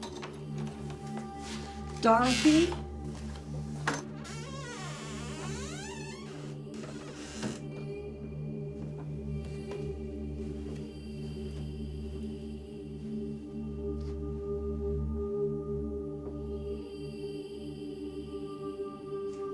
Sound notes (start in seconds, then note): 0.0 doorknob clattering; 4.3 door squeaking; 4.3 pensive music continues